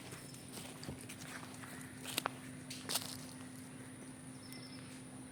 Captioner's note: hurried Footsteps